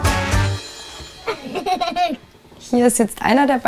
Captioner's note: children's laughter